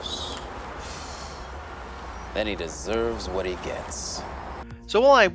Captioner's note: exhales